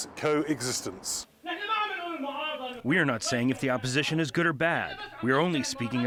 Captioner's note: through translator